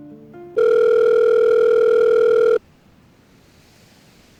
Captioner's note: phone Rings